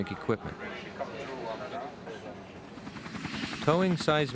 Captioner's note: people chattering